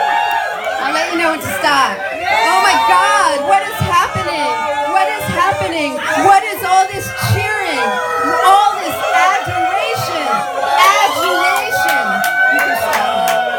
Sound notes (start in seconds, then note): 1.2 crowd cheering; 6.7 crowd continues to cheer